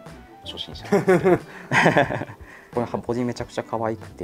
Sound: laughs

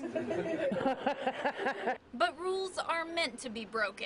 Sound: laughs

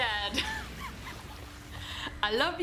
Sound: laughs

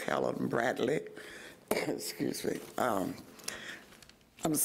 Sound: coughs

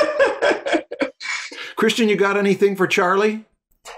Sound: laughter

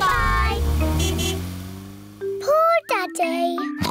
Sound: toots horn; oinks

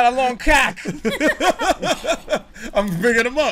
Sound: laughter

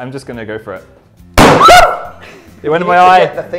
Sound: screams

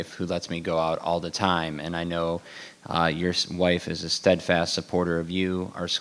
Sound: none

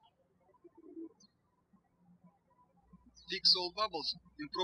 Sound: birds chirping

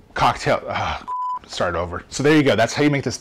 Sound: beeps

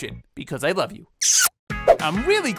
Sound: kissing

